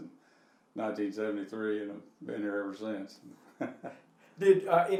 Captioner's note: chuckling